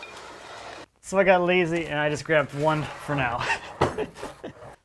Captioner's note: laughs